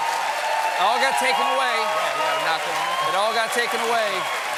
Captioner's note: cheers and applause